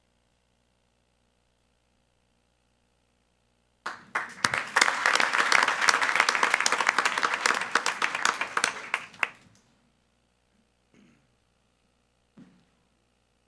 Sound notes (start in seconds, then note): 3.8 attendees applauding